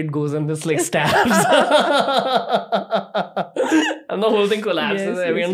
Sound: laughing

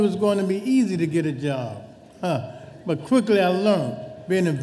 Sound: chuckles

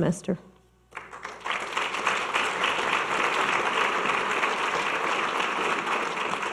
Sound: audience clapping

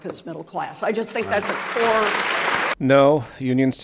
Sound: applause

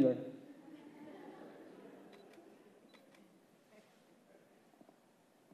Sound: laughs

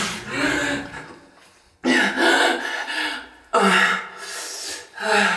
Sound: water splashing; breathing slowing; sighing

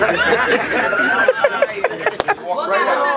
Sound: laughing

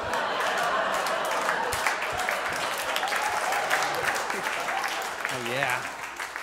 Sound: audience laughs; audience applauds

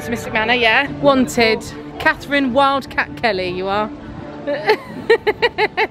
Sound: laughs

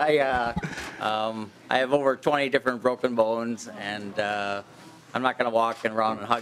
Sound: laughing

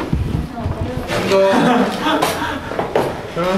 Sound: laughing

